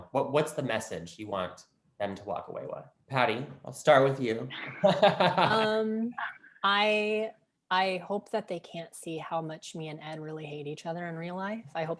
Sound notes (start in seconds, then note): 6.1 laughs